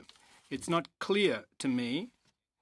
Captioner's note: speaking French